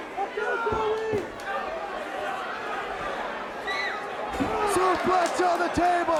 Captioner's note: crowd chatter